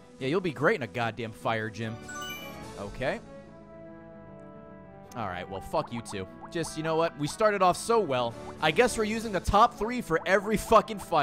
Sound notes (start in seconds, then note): none